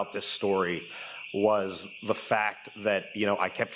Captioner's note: alarm ringing